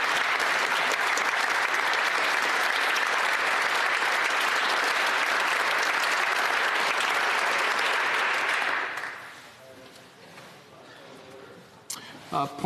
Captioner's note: applause